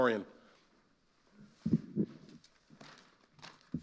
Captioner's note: microphone creaks